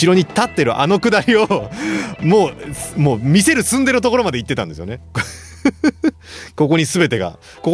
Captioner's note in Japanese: 笑い